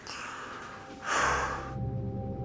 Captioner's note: sighs